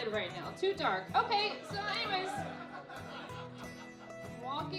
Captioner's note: laughing